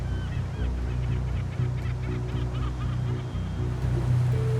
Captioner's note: seagulls crying